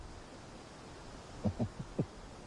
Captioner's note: chuckles